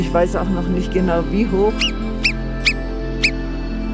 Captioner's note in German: Piepsende Tierlaute; Piepsen